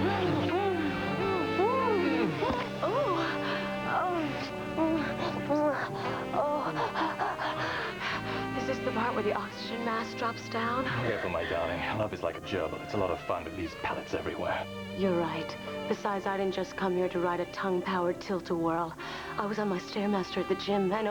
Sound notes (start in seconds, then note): 4.1 moaning and panting